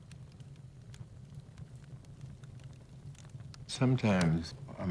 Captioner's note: fire crackles